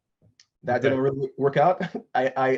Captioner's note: laughs